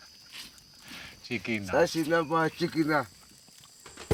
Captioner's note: speaking local language